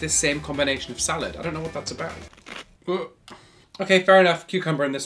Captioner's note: salad crunches